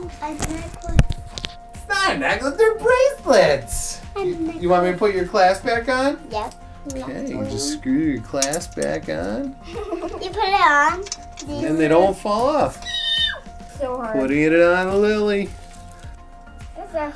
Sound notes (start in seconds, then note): 12.8 screaming